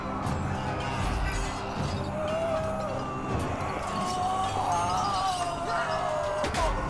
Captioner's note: groans